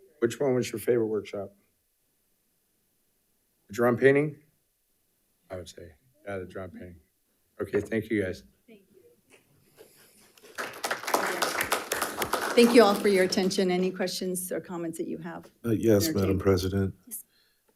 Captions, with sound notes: Which one was your favorite workshop? Drum painting? I would say, yeah, the drum painting. Okay, thank you guys. (audience applauding) - Thank you all for your attention. Any questions or comments that you have? - Yes, Madam President.